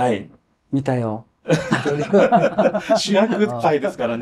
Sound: laughs

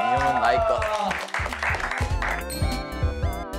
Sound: clapping

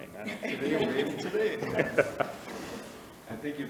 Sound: laughing

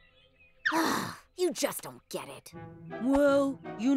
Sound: sighs

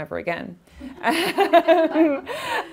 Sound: laughing

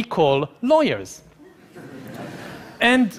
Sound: laughing

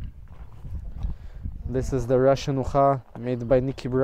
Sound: speaking in foreign language

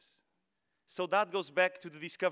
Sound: speaking foreign language

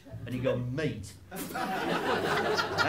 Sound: laughter

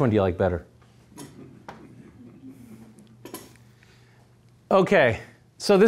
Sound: audience laughing

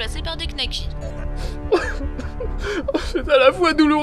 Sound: tears

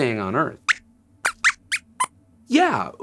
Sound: squeaks squeaks

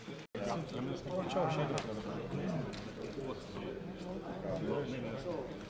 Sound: speaking in foreign language

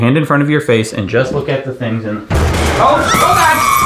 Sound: loud crashing

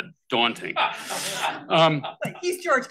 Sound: all laugh

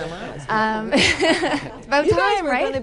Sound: laughter

